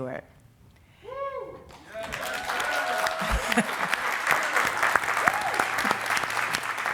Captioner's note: audience cheering and applauding